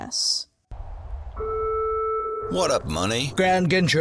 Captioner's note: dial tone